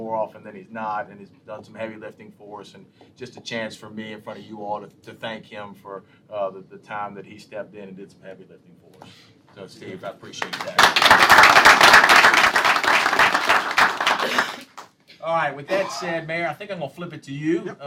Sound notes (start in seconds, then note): 15.7 applause